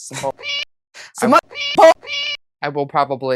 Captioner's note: meow